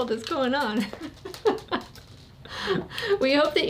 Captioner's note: laughing